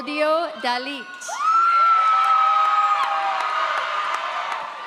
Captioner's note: audience cheers